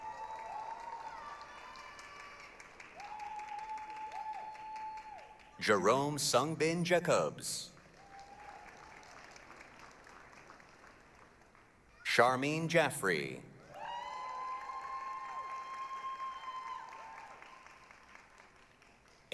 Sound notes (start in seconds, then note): 0.0 applause, cheering